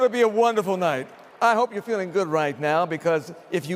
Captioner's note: cheering and applause